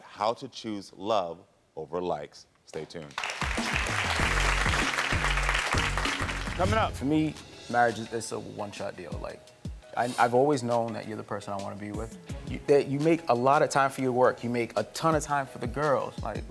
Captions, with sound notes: how to choose love over likes. Stay tuned. (audience applauding) (instrumental music) Coming up. - For me, marriage is a one shot deal. I've always known that you're the person I wanna be with. That you make a lot of time for your work. You make a ton of time for the girls.